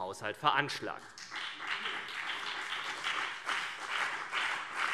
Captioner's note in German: Beifall CDU und BÜNDNIS 90/DIE GRÜNEN